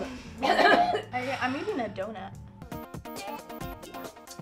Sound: coughs

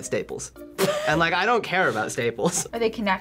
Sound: laughs

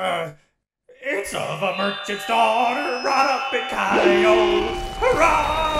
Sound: loud Feedback

